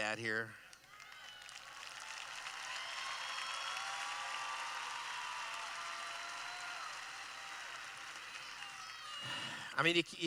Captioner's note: applause